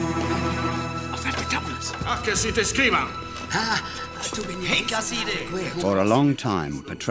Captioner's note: ominous music; men speaking foreign language